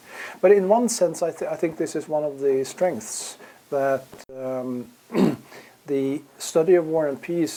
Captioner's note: cough